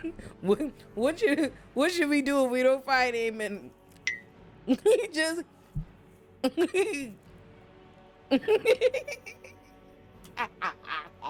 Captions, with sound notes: What should we do if we don't find Aemon? (bell dings) (laughs)